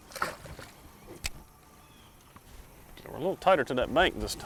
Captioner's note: water splashes